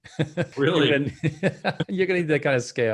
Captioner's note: chuckles; chuckling